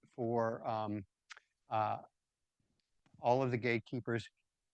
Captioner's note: none